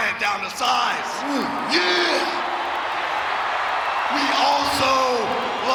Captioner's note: audience cheering